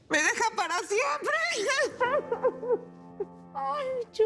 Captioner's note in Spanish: Sollozos